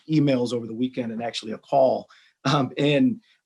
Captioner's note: clears throat